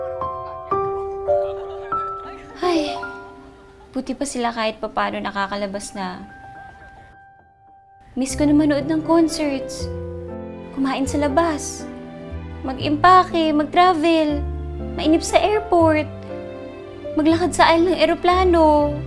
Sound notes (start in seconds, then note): 2.2 sighs